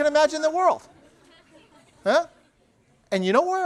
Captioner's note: laughter